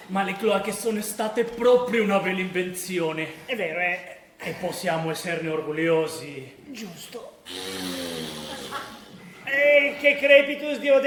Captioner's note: fart